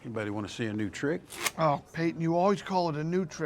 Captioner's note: playing cards flicking